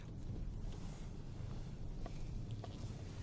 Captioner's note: whispering